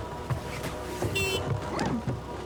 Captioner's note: car horn